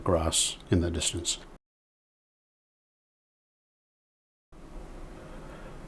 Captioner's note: silence